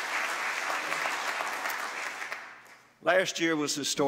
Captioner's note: applause